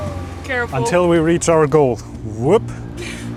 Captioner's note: whoop